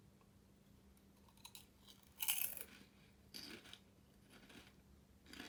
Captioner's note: chips crunching